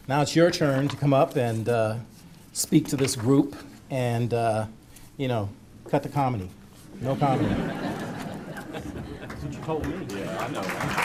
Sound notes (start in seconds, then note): 7.0 audience laughter; 10.8 applause